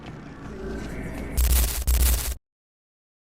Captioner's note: static